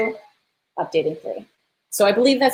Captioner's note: beep